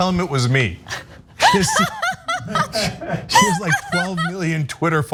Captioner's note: laugh